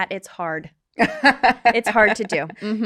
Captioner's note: laughs